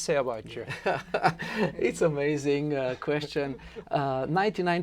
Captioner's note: laughs